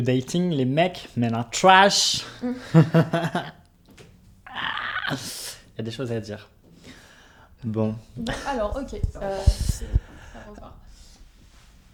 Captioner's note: nervous laugh